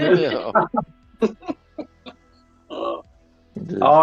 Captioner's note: laughter